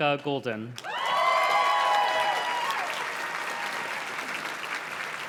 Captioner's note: audience cheers and claps